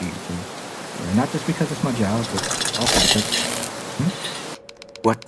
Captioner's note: camera breaks and electricity arcs